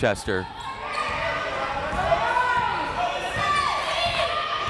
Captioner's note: crowd members shouting